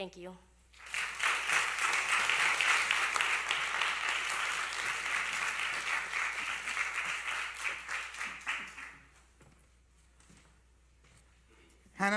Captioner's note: applause